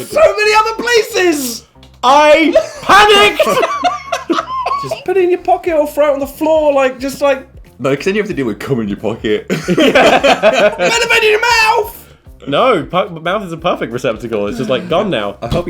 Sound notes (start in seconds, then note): 2.5 laughing; 9.5 laughing